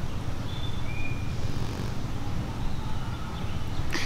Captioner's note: birds chirping